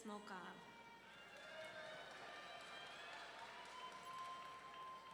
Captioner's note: audience cheering